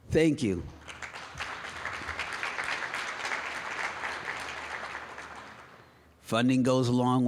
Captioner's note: applause